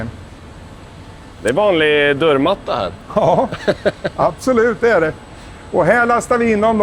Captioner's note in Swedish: skratt